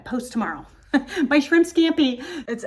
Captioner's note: laughs